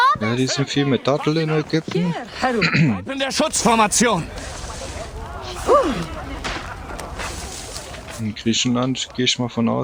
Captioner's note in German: räuspern